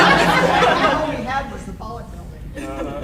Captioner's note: audience laughing